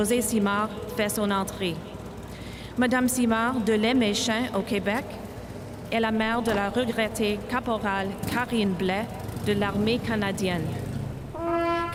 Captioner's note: speaking French